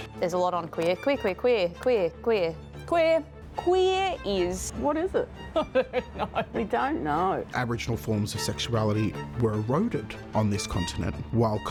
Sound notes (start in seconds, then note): 5.5 laughs